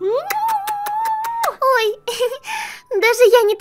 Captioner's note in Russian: смеется